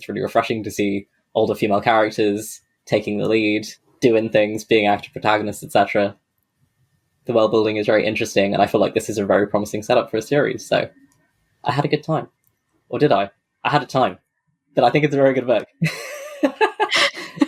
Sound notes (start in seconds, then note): 15.8 laughs